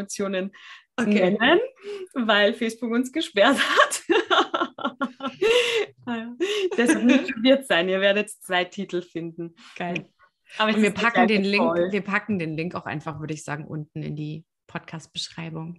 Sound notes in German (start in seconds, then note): 6.1 lachen